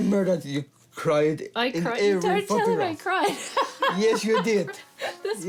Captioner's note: laughs